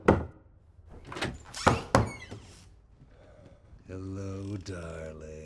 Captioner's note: door creaks